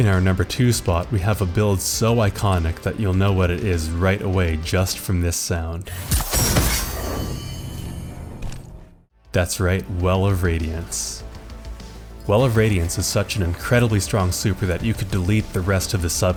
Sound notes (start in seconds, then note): 5.9 Well of Radiance cast sound